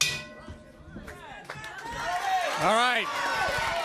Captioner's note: bell ringing